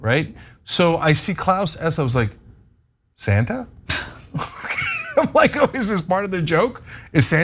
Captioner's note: laugh